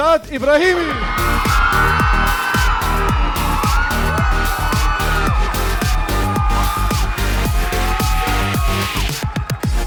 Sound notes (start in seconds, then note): 1.2 audience cheering